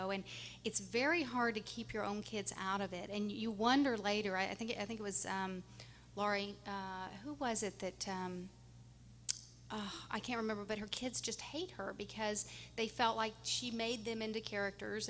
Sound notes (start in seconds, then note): 9.5 sighs